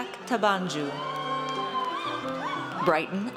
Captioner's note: audience cheers